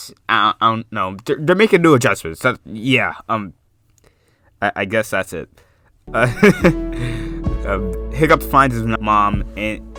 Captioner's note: laughs